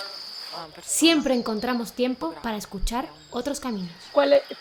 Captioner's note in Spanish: Voz en off